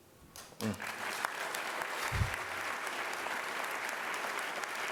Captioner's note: applause